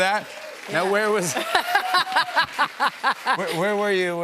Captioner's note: laughs